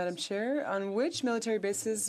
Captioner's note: speaking French